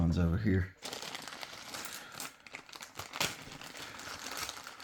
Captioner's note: paper crinkling